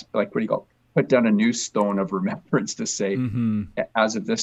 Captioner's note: chuckles